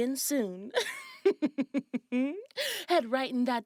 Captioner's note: Miss Treats chuckles